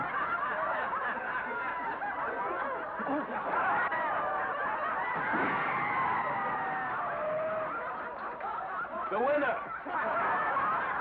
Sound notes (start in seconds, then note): 0.0 laughter & commotion; 5.0 bed crashes; 6.8 laughter & commotion